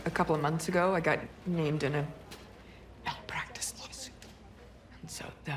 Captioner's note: whispers